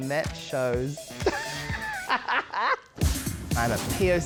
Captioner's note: laughs